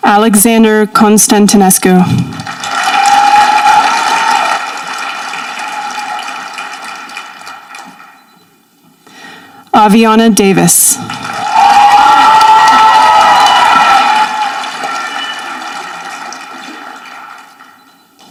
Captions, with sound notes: Alexander Constantinescu. (audience applauding) Avi Auanna Davis. (audience applauding)